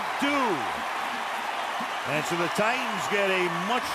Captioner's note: cheering